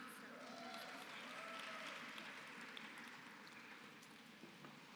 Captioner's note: applause